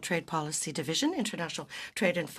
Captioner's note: speaking in French